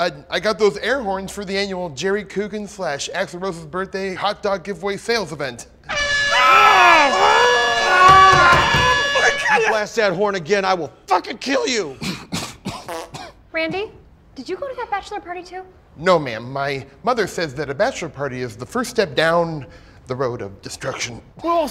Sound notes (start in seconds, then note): 5.8 air horn; 5.9 screaming; 11.8 coughing; 12.8 passing gas